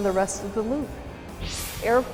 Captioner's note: sound Effects